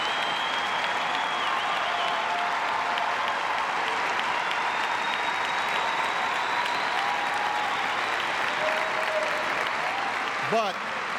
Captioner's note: applause